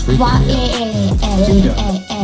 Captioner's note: Gouda crying